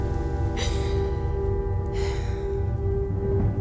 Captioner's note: McKENNAH SIGHS